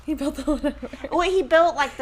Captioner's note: chuckles